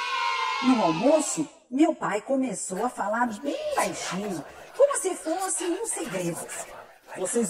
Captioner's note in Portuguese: som de sussurros ao fundo